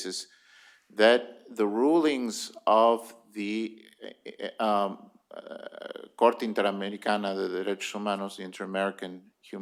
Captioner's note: speaking spanish